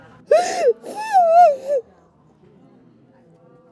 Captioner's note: sobbing